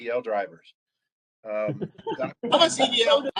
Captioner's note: laughter